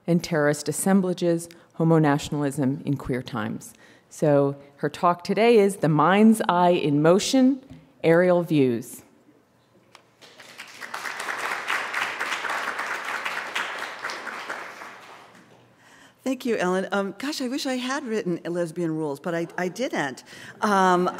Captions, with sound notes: Terrorist Assemblages, Homo-Nationalism in Queer Times. So, her talk today is, The Minds Eye in Motion, Aerial Views. >> [APPLAUSE] Thank you Ellen. Gosh, I wish I had written Lesbian Rules, but I, I didn't.